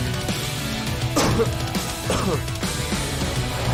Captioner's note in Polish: kaszl